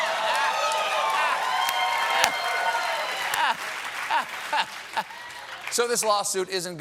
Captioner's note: cheers and applause